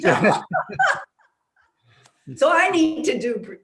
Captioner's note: laughs